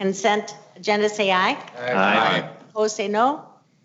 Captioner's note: multiple voices